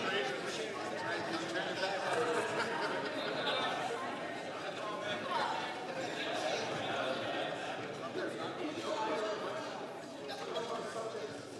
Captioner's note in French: voix de l'interprète